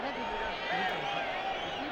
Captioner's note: speaking Spanish